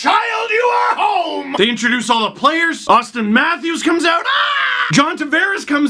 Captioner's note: mimics cheering crowd